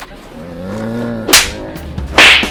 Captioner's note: slap!